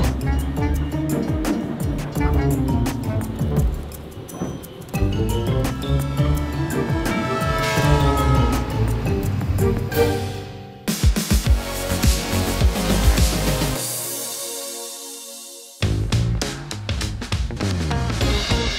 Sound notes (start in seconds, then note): 7.0 train horn blaring; 11.0 lively music; 15.7 upbeat music